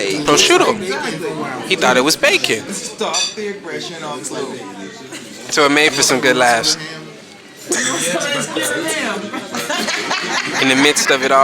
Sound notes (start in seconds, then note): 9.4 laughs